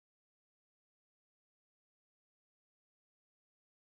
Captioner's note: none